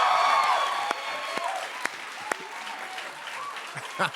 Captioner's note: cheers and applause